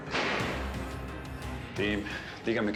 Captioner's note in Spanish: sonido al cerrar la puerta